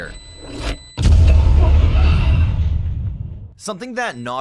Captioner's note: explodes